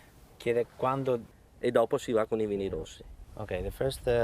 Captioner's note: speaking Italian